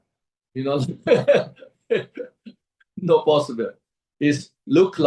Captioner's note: laughs